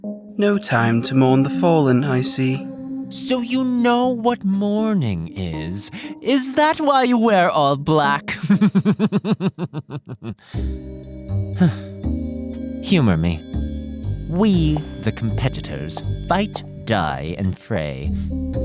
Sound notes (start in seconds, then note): 8.2 chuckling; 11.5 sigh